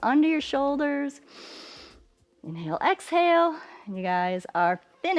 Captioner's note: inhales